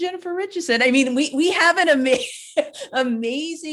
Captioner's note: laughs